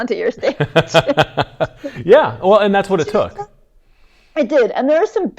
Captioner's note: laughs